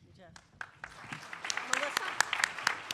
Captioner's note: applause